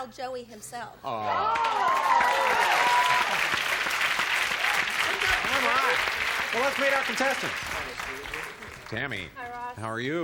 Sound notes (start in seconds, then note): 3.4 cheers